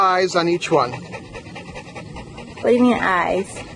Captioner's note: dog panting